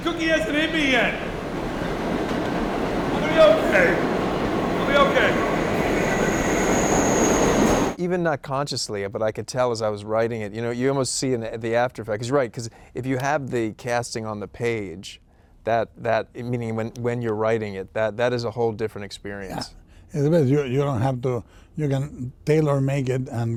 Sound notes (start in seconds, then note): 6.0 train running